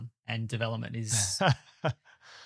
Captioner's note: laughing